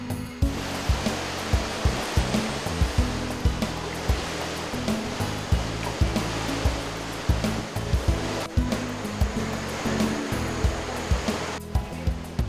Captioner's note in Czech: hudba a zvuk tekoucí vody